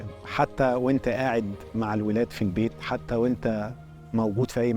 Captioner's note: in Arabic